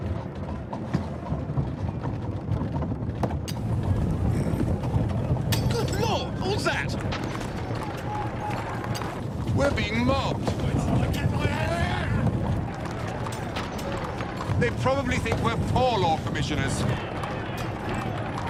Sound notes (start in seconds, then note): 5.5 glass shatters